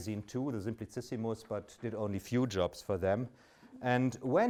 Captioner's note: speaks in German